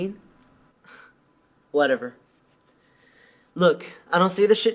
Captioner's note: scoffs